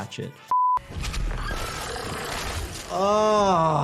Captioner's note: creature chitters; blood sloshes